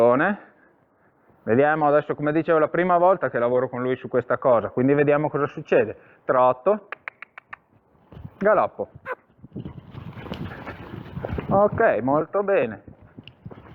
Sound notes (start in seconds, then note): 7.2 cluck